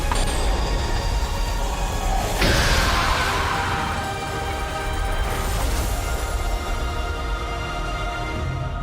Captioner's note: screaming